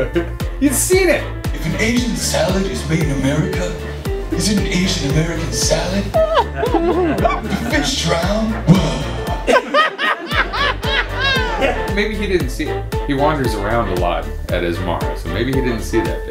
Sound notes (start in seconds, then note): 9.5 laughter